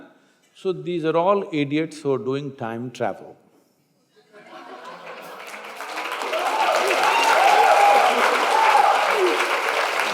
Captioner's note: laughter/Applause